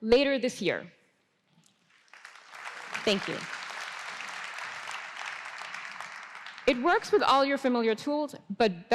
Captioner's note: applause